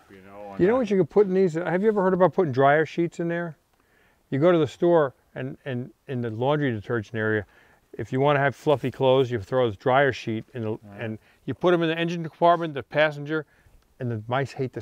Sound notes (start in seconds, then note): none